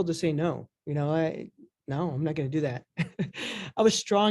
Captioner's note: chuckles